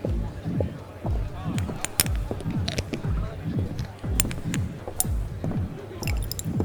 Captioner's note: water splashing